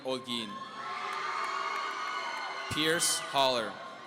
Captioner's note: audience cheering